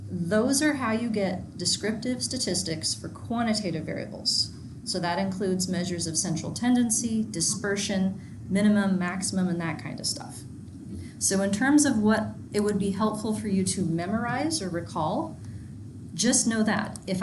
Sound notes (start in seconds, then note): none